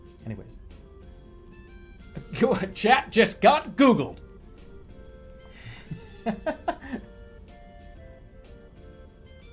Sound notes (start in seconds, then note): 2.2 chuckling; 5.6 laughing